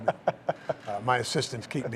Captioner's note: laughing